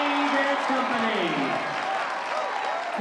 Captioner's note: applause